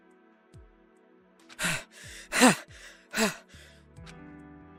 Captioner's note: huff; puff